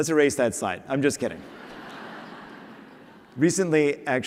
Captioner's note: laughter